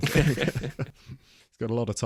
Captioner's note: both Laugh